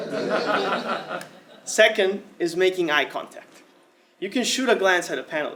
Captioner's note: laugh